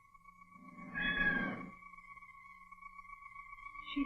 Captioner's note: anita meows